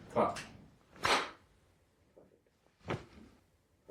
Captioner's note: Spielberg claps